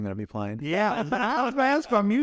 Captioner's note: both laugh